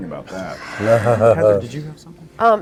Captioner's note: everybody laughs